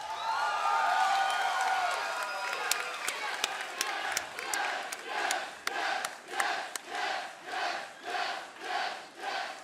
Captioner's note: crowd cheering; crowd chatter